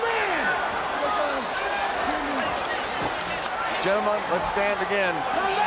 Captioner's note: crowd chatter